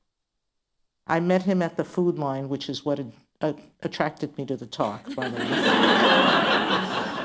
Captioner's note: laughter